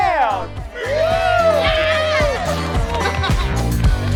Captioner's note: campers cheering; upbeat country music